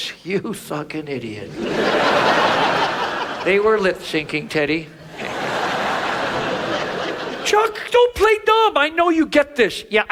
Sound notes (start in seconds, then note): 1.4 audience laughs